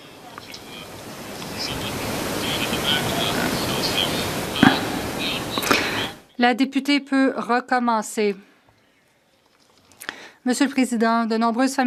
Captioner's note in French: voix de l'interprète